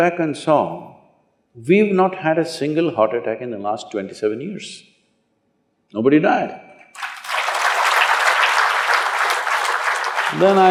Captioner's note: applause